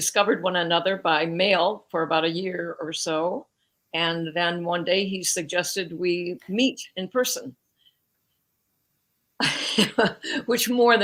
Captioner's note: laughs